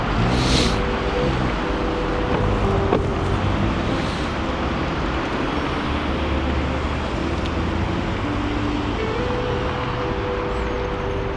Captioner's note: wind Blowing